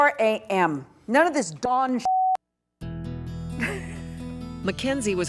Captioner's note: laughs